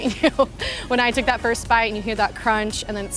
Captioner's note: laughs